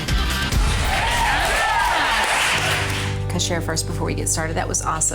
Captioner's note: cheerleaders applaud